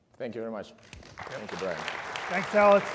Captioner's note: everybody applauds